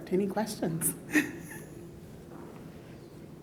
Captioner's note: chuckles